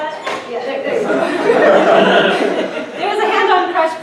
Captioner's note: laughter